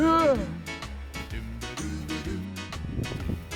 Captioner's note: grunts